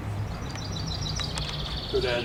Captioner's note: birds Chirping